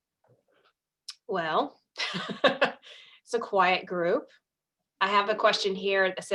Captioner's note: laughs